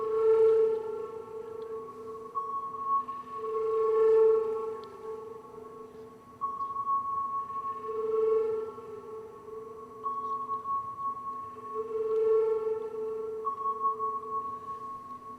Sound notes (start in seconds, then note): 6.0 soft pinging and trilling